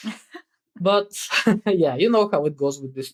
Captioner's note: <Laugh>